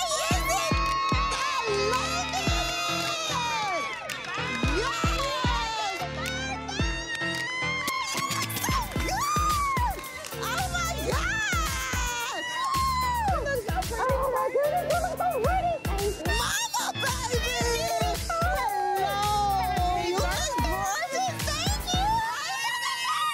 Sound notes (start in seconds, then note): 0.1 cheering